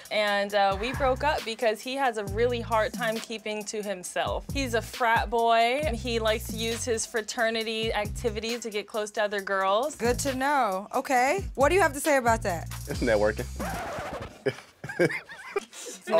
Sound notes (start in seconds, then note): 12.9 record scratches; 14.3 group laughs